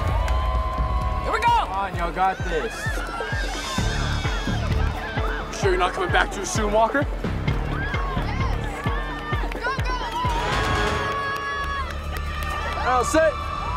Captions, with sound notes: - Here we go! - Come on, you all got this! (intense music) - You sure you're not coming back to soon, Walker? (crowd cheering) - Now set! Hut!